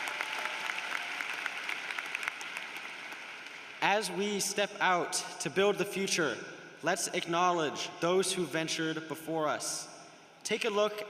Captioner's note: cheering and applause